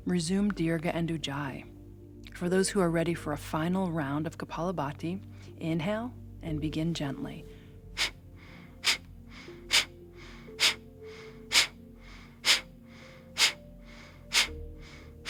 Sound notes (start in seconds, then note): 8.3 exhaling rapidly